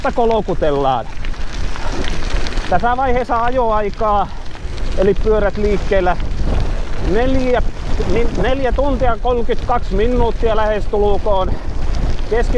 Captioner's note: bikes moving